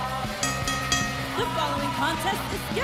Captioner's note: bell rings